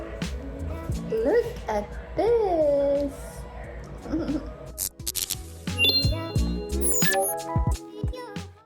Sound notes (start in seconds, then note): 4.0 chuckles; 5.8 fizz, computer chimes